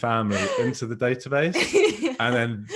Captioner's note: laughing